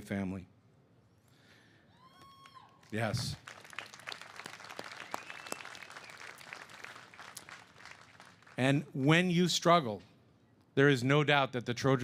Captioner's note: cheers and applause